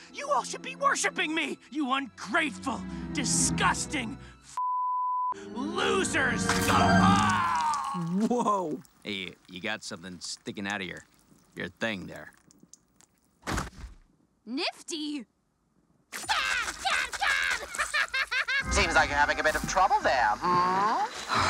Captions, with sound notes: You all should be worshiping me. You ungrateful, disgusting, (beep) losers. (Adam grunts) - Whoa. - Hey, you got something sticking outta your, your thing there. - Nifty? - Stab, stab, stab! (laughs) - Seems like you're having a bit of trouble there, hmm?